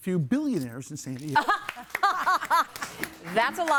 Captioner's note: laughing